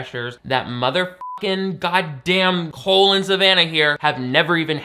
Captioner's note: beep